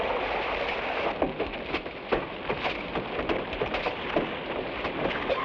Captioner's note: branches smack